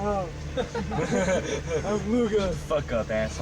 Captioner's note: soldiers laughing